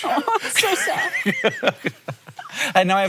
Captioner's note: Hank laughing